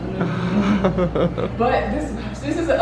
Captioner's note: laughs